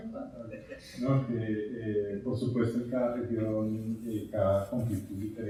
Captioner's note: speaking in Spanish